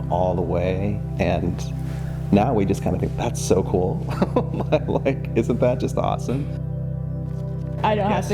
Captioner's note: chuckling